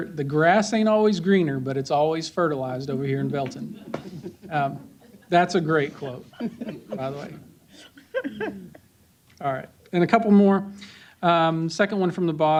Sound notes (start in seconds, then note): 8.0 chuckles